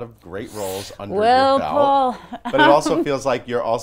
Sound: sucking air

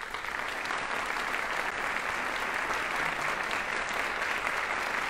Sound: audience applauding

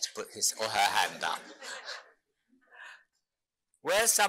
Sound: audience laughing

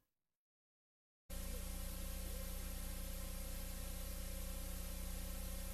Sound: VHS static

